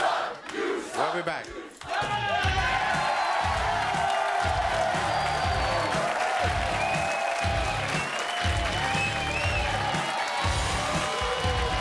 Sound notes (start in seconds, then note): 1.8 audience cheering; 1.8 edgy music